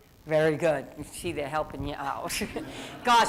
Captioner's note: laughs